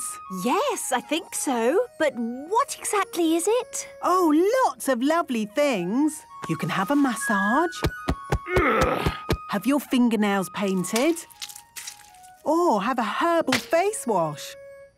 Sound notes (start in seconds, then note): 7.8 thumping; 8.4 moaning